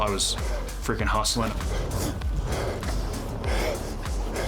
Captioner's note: breathing heavy